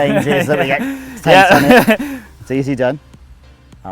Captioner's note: men laughing and cross talk